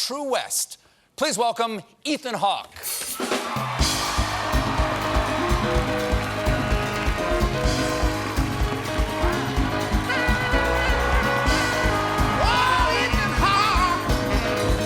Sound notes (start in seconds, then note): 3.0 cheers and applause; 3.1 band playing; 13.6 cheers and applause